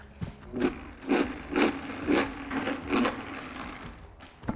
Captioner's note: blender whirring